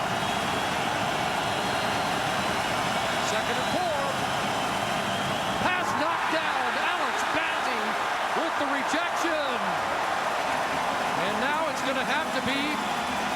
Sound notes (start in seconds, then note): 4.1 crowd Noise